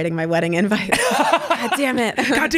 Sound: laughs

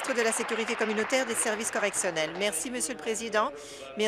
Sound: applause

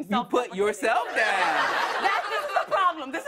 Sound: laughter

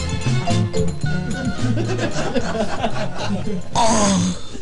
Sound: laughing

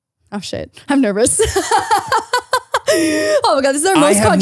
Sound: laughs

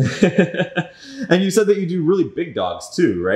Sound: laughing

